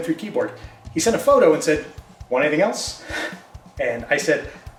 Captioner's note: chuckles